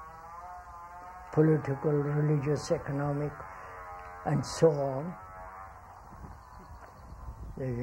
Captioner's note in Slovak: zvuk píly